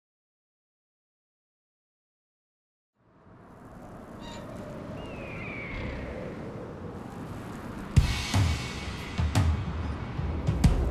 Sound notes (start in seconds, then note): 3.0 wind gusting; 3.9 birds screeching; 8.0 tribal drum beat